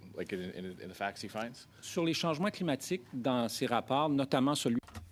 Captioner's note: speaking French